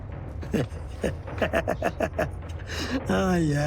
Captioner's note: chuckling